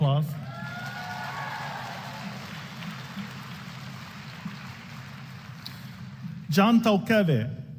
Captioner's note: applause